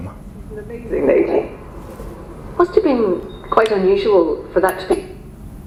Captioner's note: radio on